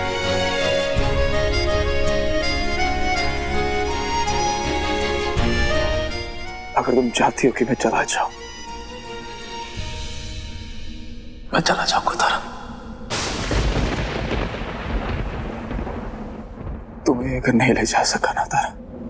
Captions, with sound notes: If you want me to leave, I'll leave, Tara. [thunder breaking] If I cannot take you with me,